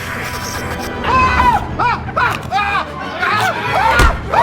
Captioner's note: light buzzing; vampire hissing; teeth chomping; Dell screaming; stick thudding